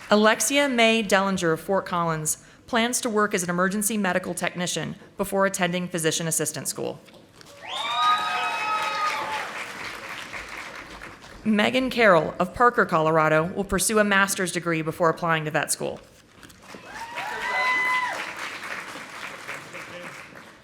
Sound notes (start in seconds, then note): 7.5 audience applauding; 16.6 audience applauding